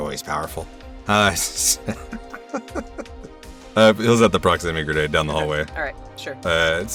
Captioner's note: chuckles